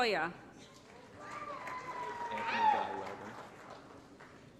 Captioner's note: applause & Cheering